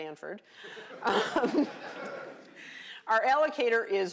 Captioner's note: laughter